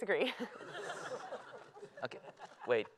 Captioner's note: laughter